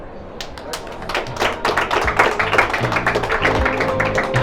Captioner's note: applause; slow music